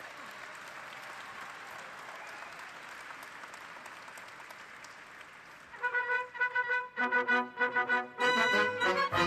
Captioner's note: cheers and applause